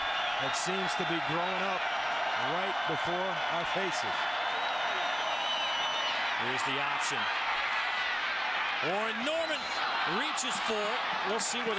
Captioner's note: crowd noise